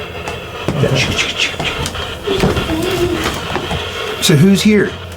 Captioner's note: metal clanking